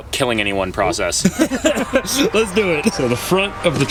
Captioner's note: chuckles